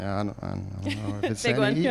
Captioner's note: laughs